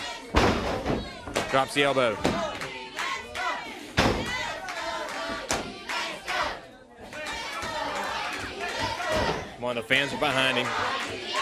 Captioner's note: crowd cheering